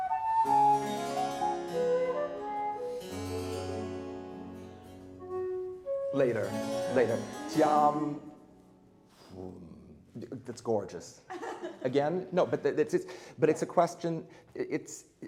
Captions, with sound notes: (classical music) Later, later, di-om, voom, it's gorgeous. (light laughing) Again, no, but it's a question,